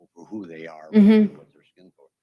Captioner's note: grunts affirmatively